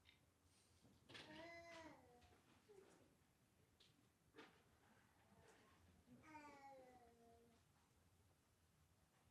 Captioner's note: baby cooing